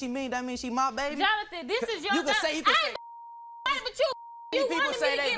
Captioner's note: beep